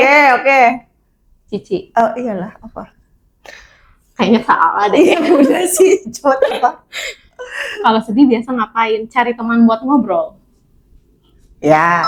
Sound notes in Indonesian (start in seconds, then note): 5.0 tertawa; 7.1 terkesiap